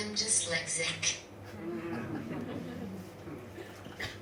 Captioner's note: audience laughs